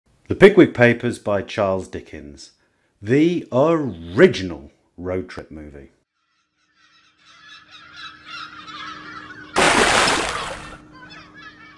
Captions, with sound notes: The Pickwick Papers by Charles Dickens. The ORIGINAL road trip movie. [Gulls Calling] [Big Splash!]